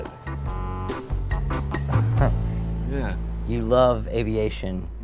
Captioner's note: laughing